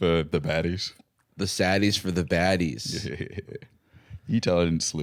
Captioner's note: chuckling